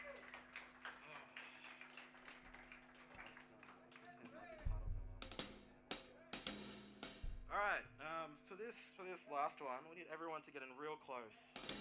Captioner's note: applause